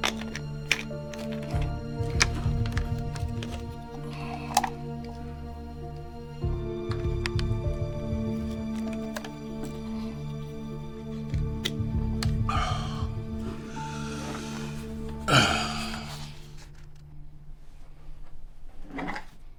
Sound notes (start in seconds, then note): 9.5 tense music continues; 15.3 Dr. Jamison sighs